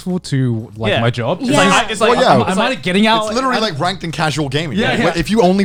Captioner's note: group agreeing